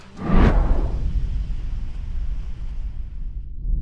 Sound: wind whooshing

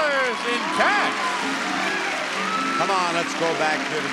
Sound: audience cheers

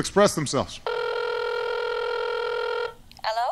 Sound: phone rings

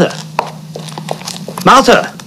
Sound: feet shuffling

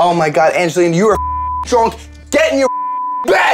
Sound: beep

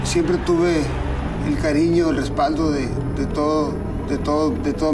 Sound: speaking Spanish

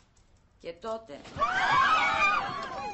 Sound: passengers scream

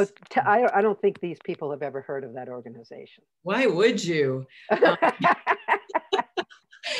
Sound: laughs

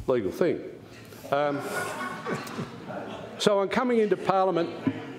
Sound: laughter

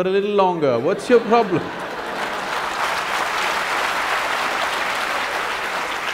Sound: laughter/Applause

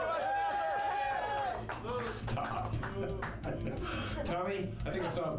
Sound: audience cheering

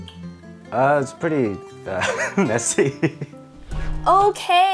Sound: laughing

